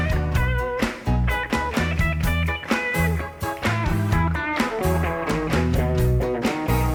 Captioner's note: audience cheers; upbeat guitar music; upbeat palming